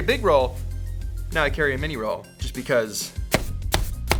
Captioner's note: tape bangs